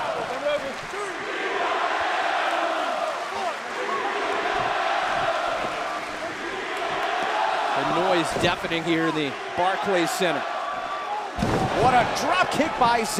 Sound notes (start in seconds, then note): 3.5 fans chanting